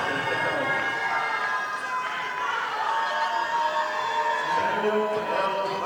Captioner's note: audience applauding